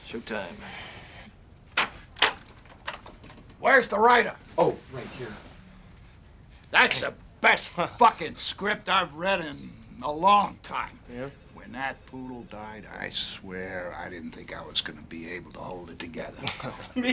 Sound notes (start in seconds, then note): 1.7 door opens